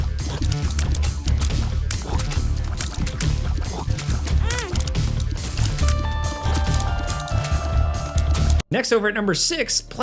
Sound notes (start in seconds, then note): 0.1 enemies patter; 4.3 Isaac groans; 6.0 haunting music